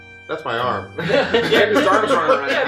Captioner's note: laughter